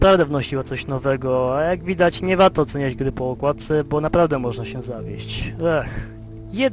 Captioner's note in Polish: westchnienie